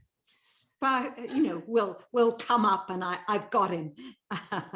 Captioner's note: chuckles